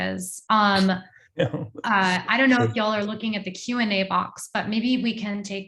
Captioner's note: laughs